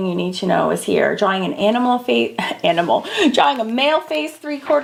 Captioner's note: laughing